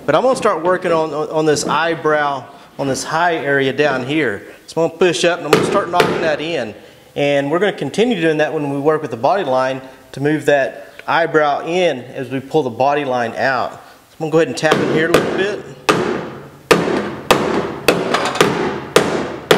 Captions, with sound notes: but I'm going to start working on this eyebrow, on this high area down here. Small pushup and I'm going to start knocking that in and we're going to continue doing that when we work with the body line to move that eyebrow in as we pull the body line out. So I'm going to go ahead and tap here a little bit. (thuds)